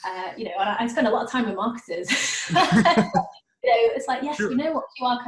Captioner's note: laughing